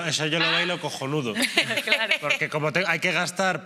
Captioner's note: laughing